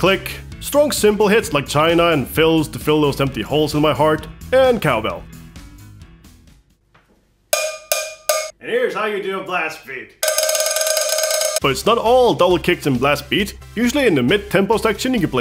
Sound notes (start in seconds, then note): 7.5 hits cowbell; 10.2 repeatedly hits cowbell